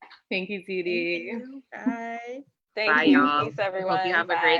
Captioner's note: overlapping thanks and good byes